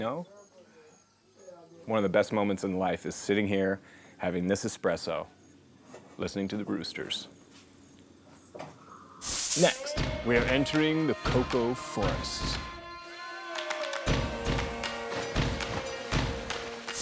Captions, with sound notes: One of the best moments in life is sitting here having this espresso listening to the roosters. Next... We're entering the cocoa forest. [yells]